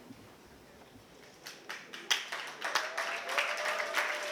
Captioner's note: applause